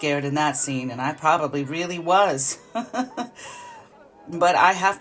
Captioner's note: chuckles